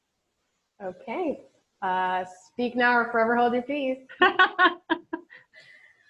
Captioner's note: laughs